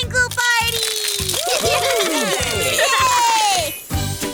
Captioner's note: cheering